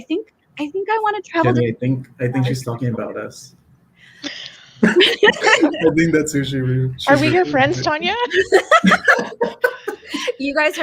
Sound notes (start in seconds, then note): 7.1 laughing